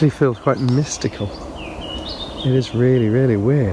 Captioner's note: birds chirping